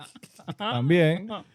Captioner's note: laughing